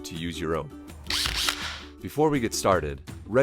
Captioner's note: drill roars